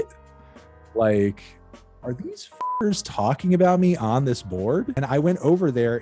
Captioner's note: beep